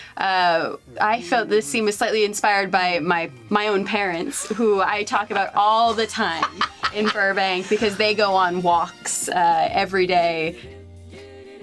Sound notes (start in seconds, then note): 6.8 laughs